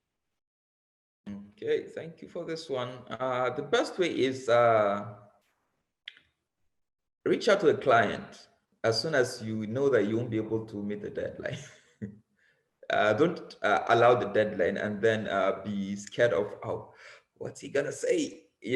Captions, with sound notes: - Okay, thank you for this one. The best way is reach out to the client. As soon as you know that you won't be able to meet a deadline. (chuckles) Don't allow the deadline and then be scared of, what's he gonna say?